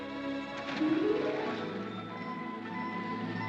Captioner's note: soft music; water splashes; soft music